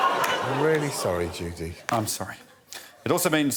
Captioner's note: audience laughs